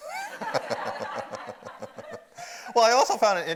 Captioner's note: audience laughs